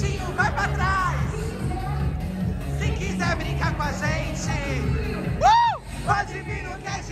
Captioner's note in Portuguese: grita